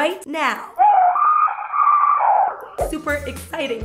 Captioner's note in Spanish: grito ruidoso